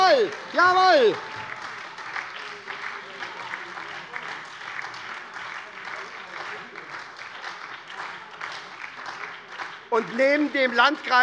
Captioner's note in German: Beifall bei der SPD und der LINKEN - Zurufe von der CDU: Ah!